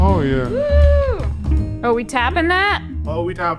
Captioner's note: cheers